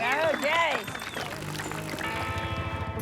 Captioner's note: cheers, applause